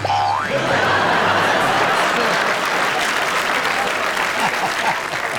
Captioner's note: audience laughing and applauding; laughing